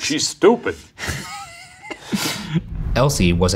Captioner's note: laughing